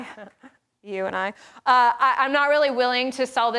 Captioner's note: laughs